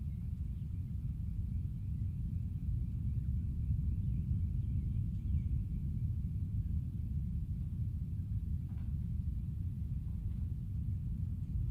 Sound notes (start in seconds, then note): none